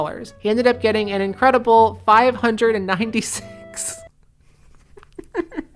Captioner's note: laughing